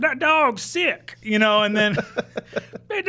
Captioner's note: laughing